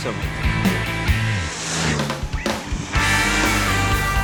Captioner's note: motorcycle revving